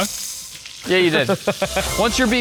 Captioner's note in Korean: 웃음